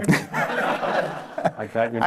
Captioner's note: laughter